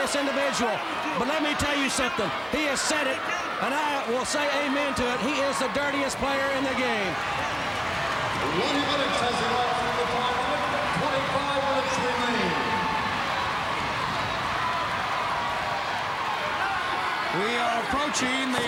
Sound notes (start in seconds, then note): 8.0 crowd cheering; 13.3 crowd cheering